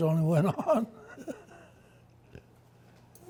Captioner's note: laughs